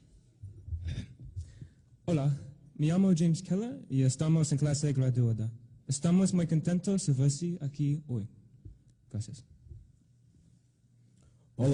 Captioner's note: speaking in Spanish